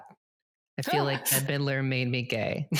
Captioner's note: laughs